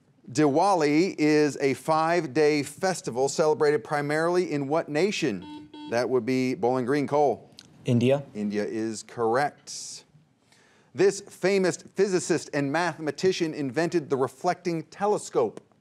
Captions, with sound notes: Diwali is a five day festival celebrated primarily in what nation? (buzzer beeps) That would be Bowling Green, Cole. - India. - India is correct. This famous physicist and mathematician invented the reflecting telescope.